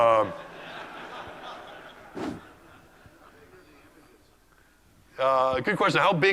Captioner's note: laugh